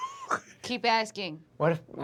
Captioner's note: laughter